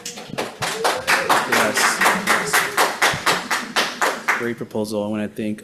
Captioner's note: committee applauds